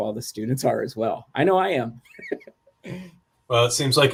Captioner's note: laughter